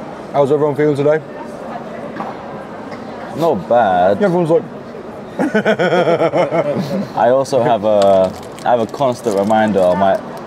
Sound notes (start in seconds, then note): 5.4 laughs